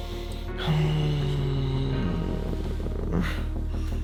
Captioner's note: creepy groan